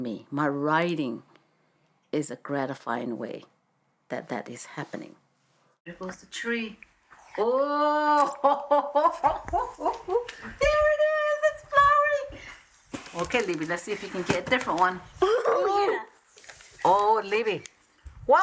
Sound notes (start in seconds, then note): 8.2 laughs